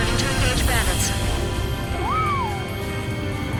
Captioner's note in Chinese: 口哨聲